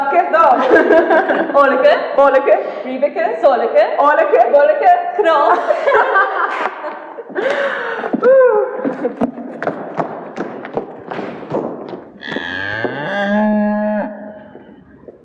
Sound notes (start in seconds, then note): 0.4 laughing; 5.4 laughing; 7.5 laughs; 12.2 cow moos